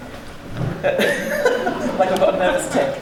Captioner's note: laughing